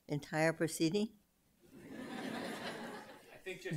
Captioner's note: laughter